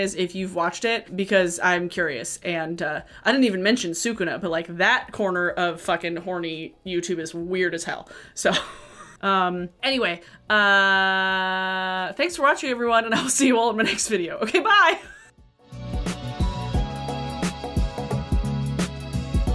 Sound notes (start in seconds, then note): 15.0 laughing; 15.4 cheerful pop music